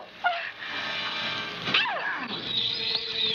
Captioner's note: grunting